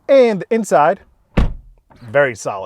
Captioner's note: door closing